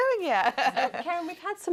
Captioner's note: laughs